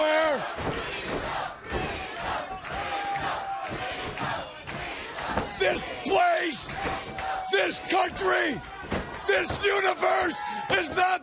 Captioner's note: crowd cheering